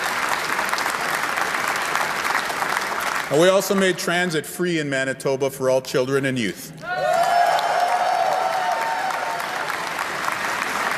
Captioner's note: cheer and applause